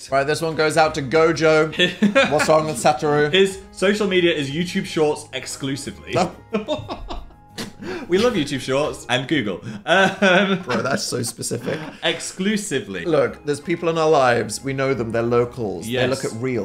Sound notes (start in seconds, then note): 1.7 Phil laughs; 6.5 Phil laughs; 9.7 laughs